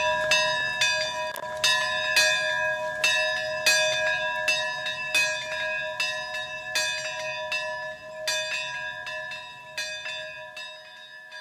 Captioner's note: bells ringing